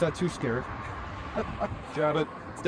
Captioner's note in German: Beide lachen